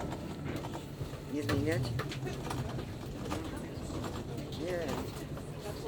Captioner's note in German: undeutliches Gerede